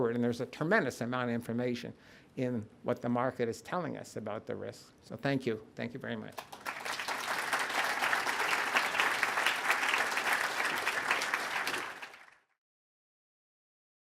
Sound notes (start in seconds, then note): 6.3 applause